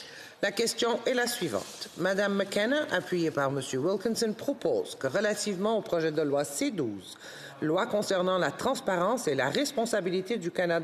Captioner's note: speaking in French